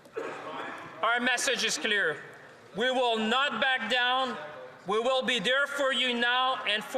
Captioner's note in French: voix de l'interprète